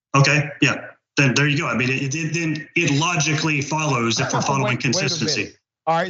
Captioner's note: laugh